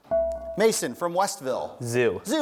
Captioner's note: dinging